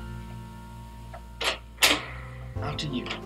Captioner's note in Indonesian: Pintu terbuka